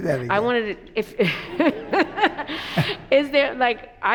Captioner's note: laughs